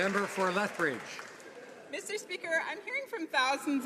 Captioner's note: some Applause